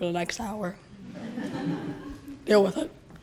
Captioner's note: laughter